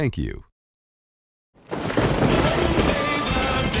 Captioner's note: thunder cracking